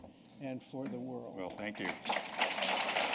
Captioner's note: applause